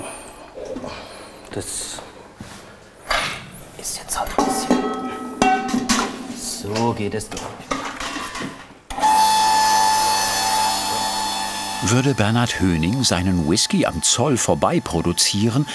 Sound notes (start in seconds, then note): 8.9 high buzzing